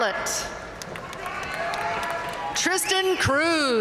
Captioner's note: audience cheering and applauding